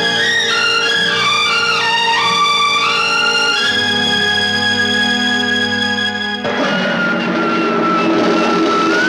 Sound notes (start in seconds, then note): 6.5 tv Playing